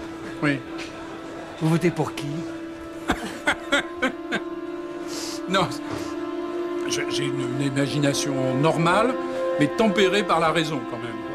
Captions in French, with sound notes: "Oui ? -Vous votez pour qui ? "(rire) "Non, j'ai une imagination normale, mais tempérée par la raison, quand même.